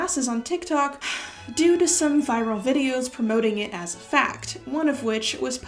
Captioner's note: exasperated sigh